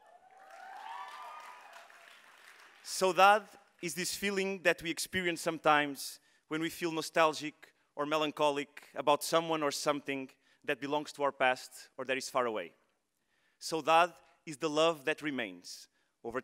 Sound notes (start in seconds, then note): 0.0 audience cheering; 3.0 speaking in foreign language; 13.6 speaking in foreign language